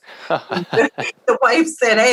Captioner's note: both laugh